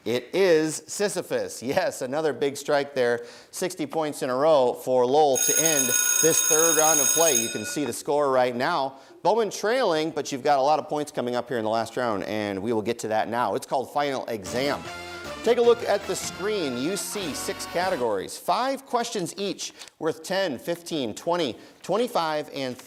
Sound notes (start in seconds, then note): 5.3 timer ringing; 14.4 upbeat theme music